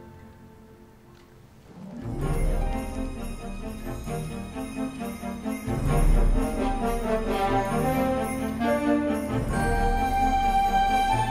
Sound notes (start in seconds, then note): 1.4 upbeat festive music; 1.9 bells jingling